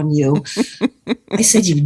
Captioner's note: chuckles